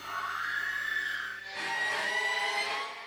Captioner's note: scream